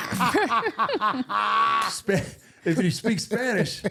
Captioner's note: laughing